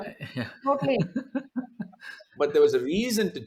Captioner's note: laughs